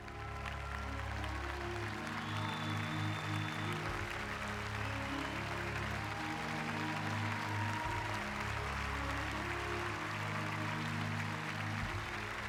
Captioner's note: applause